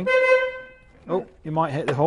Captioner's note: horn honks